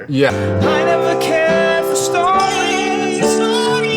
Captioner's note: echoing